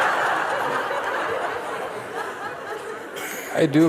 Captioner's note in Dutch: gelach